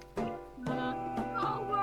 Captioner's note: sobs